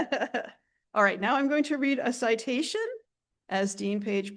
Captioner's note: laughs